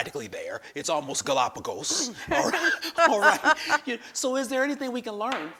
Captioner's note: laughs